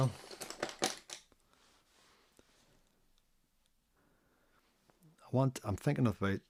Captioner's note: silence